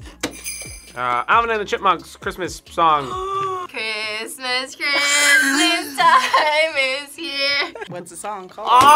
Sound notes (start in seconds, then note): 0.2 bells jingling; 3.0 gasps